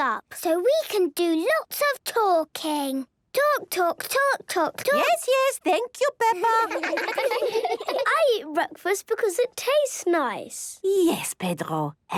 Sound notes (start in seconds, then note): 6.3 children laughing